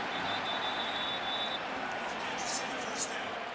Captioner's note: whistling